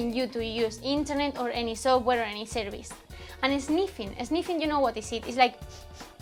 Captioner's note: snifs